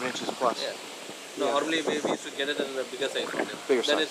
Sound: wind blows

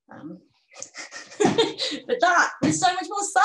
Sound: chuckles

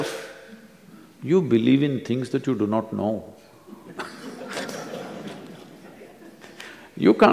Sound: laughter

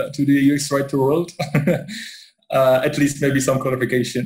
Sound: laughs

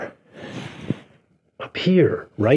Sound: hands whooshing

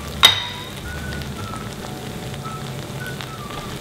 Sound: clanking

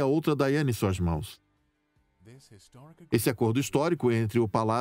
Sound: voiceover

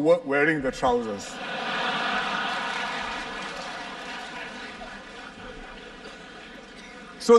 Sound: laughter

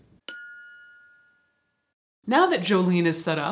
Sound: bell dings

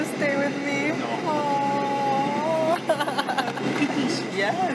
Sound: laughs

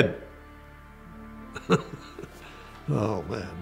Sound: laughs

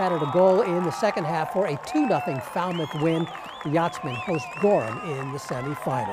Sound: cheers

